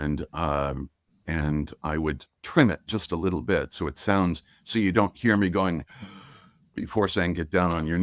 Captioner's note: breathes